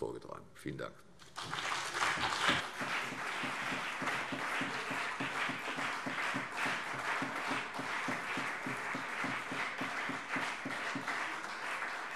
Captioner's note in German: Anhaltender Beifall CDU und BÜNDNIS 90/DIE GRÜNEN